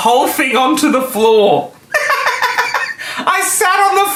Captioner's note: laughing